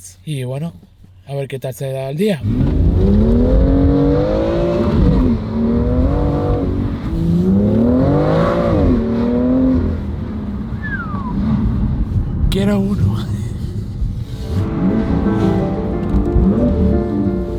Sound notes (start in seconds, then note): 10.7 whistles